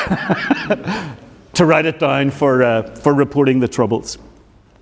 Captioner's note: laughs